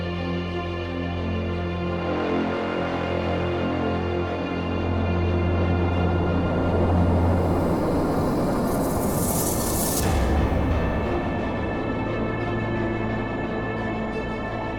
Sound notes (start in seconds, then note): 4.8 ship engine humming